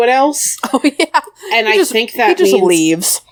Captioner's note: laughs